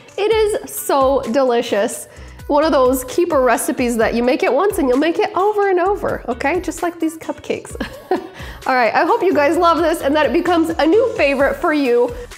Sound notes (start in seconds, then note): 7.8 laughs